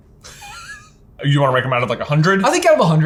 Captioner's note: laughs